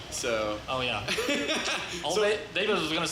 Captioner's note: laughs